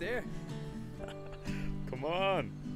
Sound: laughs

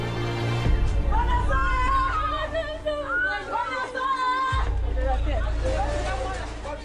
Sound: crying; yelling

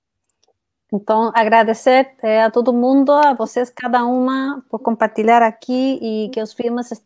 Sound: speaks portuguese

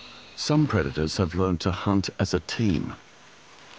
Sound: none

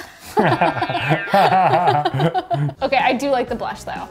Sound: both laughing

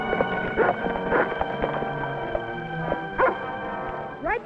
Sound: dog barks

